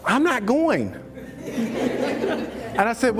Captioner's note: laughs